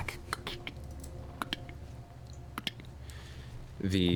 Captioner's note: clicking footsteps